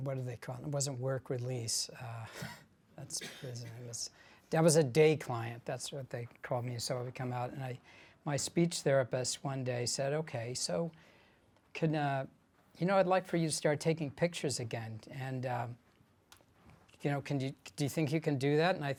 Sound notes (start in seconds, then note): 3.4 speaks faintly